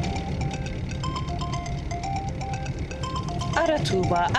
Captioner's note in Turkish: Telefon zili sesi